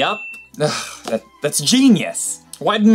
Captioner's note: sighs